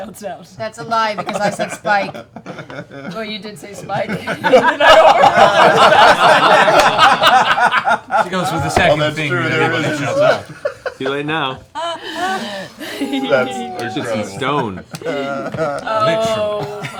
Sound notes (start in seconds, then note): 6.7 laughter